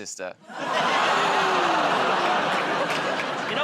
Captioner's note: audience groans